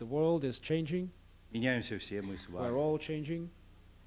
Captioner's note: non-english speech